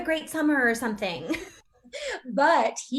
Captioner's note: Lydia and Alice laughing